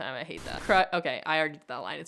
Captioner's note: screen hissing